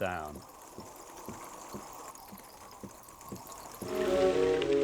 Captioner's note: sound of rain pattering